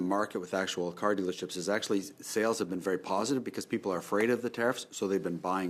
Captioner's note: speaking French